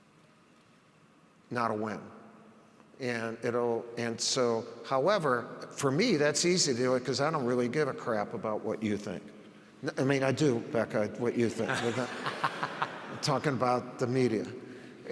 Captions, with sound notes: Not a win. However, for me, that's easy, 'cause I don't really give a crap about what you think. I mean I do, Becca, what you think. (audience laughs) I'm talking about the media.